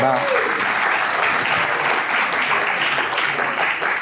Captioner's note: audience clapping